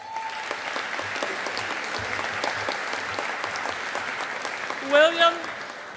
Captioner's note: audience applauding